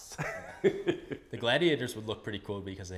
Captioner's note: laughs